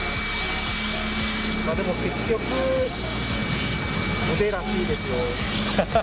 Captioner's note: laughs